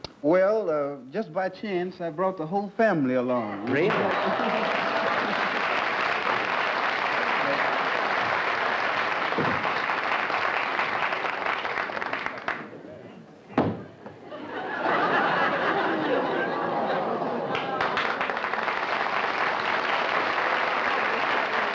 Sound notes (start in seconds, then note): 3.6 applause; 14.2 laughter; 17.3 applause